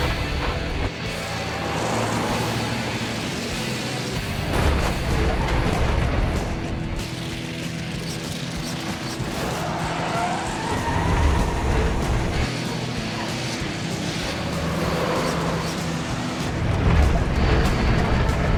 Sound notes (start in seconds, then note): 0.2 energetic music; 2.5 engines revving; 4.7 buses crashing; 7.3 engines rumbling; 9.6 tires squealing